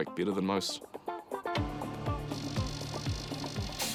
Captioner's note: tyres hiss